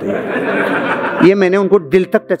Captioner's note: laughing